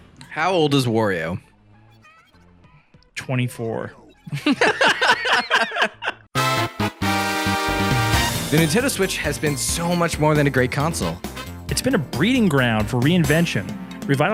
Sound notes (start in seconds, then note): 4.1 laughing; 6.3 upbeat electronic music